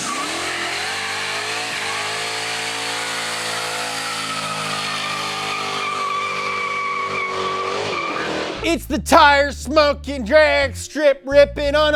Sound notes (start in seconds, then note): 0.1 car engine revving; 4.2 tires squealing